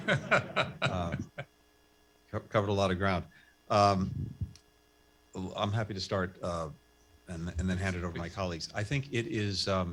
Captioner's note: laughter